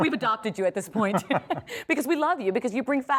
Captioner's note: laughs